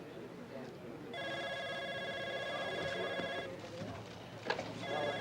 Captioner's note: phone rings